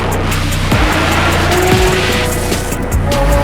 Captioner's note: engine roaring